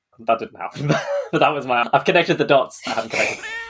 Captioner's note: laughs